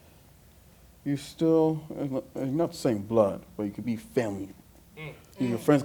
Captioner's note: affirmative sounds